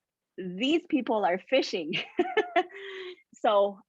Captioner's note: chuckles